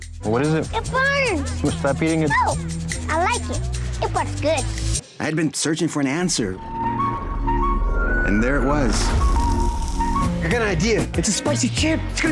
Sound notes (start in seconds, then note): 6.6 whistling